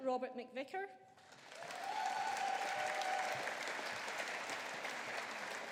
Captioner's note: audience applauding